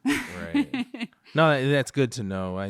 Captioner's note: laughter